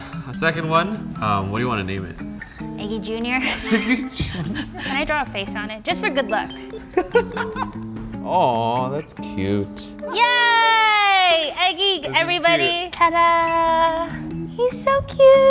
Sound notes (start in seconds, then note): 3.4 laughter; 6.9 laughter